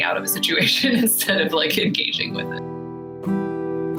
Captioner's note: laughs